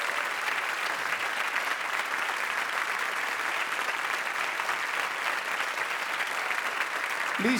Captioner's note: audience applauding